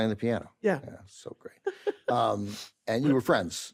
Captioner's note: laughs